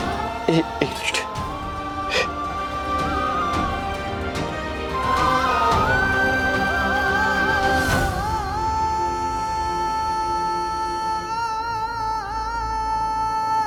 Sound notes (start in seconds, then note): 8.3 emotional vocalising